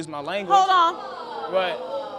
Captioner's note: audience exclaiming in shock